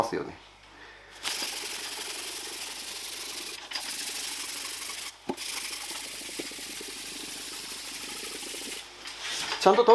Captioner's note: working sound